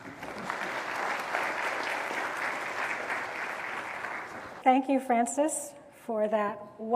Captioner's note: applause